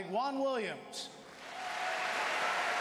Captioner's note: applause